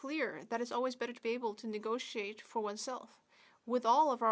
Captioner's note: speaking French